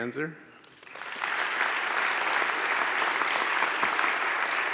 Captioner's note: audience claps